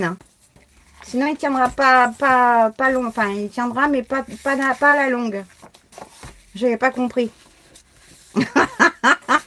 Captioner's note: laughs